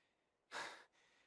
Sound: sigh

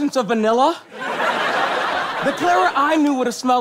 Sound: audience laughs

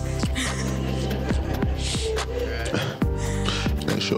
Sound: laughter

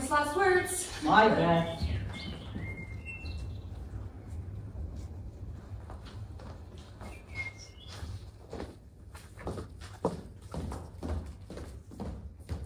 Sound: sound: birds

